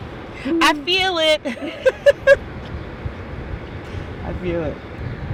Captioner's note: laughs